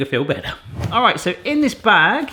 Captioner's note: air whooshing